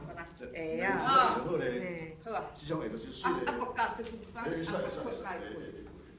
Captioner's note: speaking foreign language